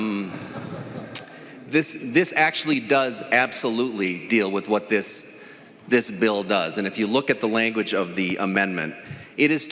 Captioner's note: laughing